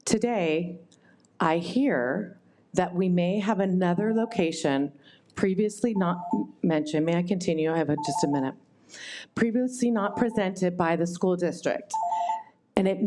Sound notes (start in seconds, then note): 7.9 timer beeps